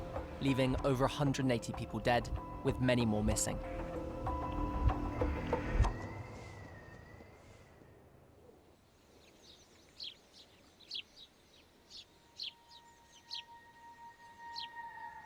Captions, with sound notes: leaving over 180 people dead with many more missing. (birds chirping) (soft music)